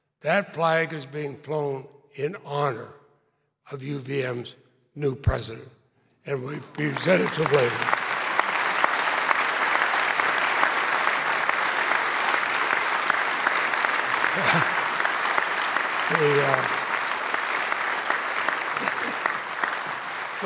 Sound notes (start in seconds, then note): 6.8 clapping